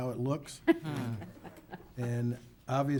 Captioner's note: chuckling